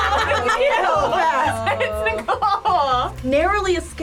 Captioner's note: laughs